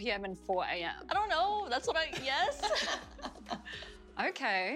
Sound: laughter

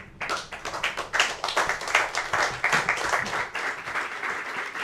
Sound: audience applauding

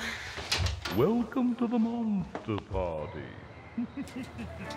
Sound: voiceover; laughs manically

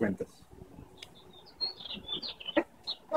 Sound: birds chirping

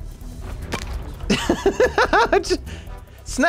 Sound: laughs

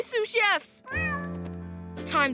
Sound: meowing

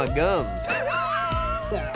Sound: laughing

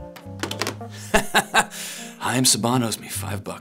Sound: Dick laughs

